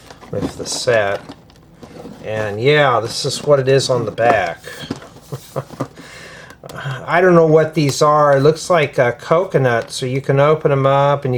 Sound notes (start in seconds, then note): 5.2 laughter; 6.0 sighs